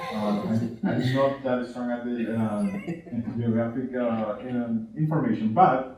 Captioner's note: distorted speaking